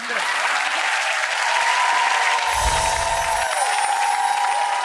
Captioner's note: audience applause